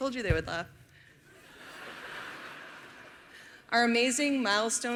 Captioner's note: laughter